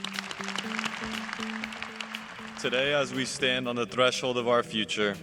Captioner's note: applause